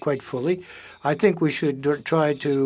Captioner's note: speaking French